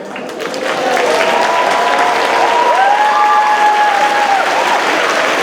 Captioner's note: audience cheers and claps